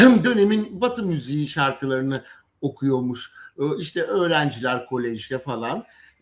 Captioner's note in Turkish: boğazını temizler